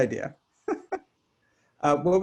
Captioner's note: laughs